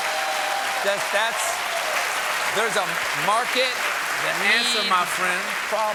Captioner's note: cheers and applause